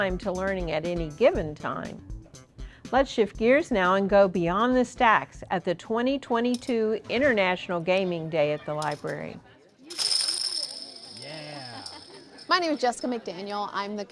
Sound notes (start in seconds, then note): 9.9 tokens hitting table